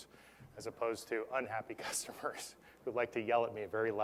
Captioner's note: laugh